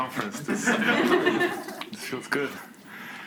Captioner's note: students laugh